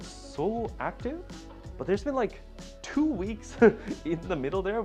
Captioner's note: chuckling